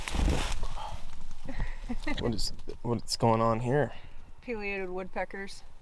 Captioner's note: laughs